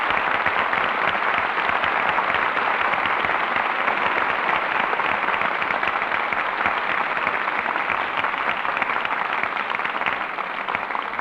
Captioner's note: applause